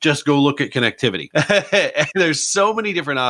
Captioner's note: laughs